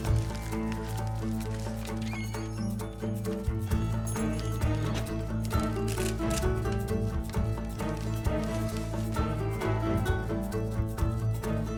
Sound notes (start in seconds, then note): 2.3 door creaks and jingles shut